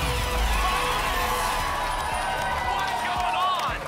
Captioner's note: applause and cheering